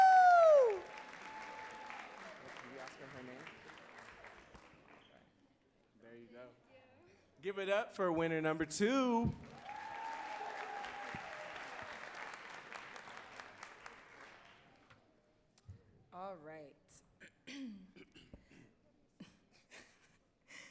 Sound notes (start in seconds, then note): 0.0 audience cheering and clapping; 15.0 audience cheering and clapping